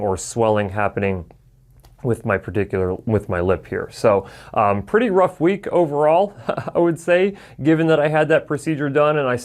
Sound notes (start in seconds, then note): 6.3 chuckles